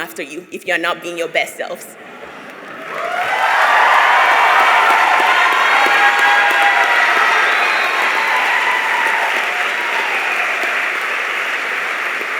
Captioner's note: applause